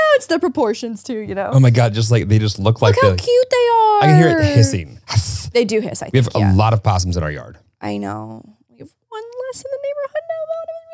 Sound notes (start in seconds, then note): 4.0 makes hiss sound